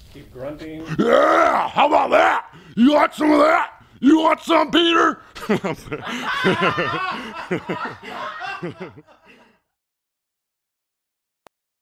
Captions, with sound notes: - Keep grunting. - How about that? You want some of that? You want some Peter? [Laughter]